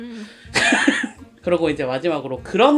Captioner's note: laughing awkwardly